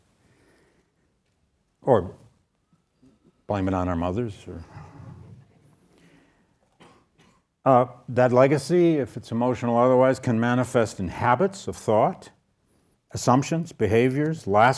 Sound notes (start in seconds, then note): 4.9 audience laughs